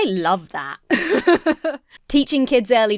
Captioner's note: laughs